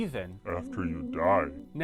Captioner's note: deep voice